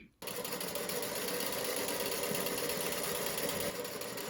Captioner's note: machine whirring